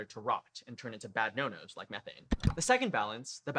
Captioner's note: click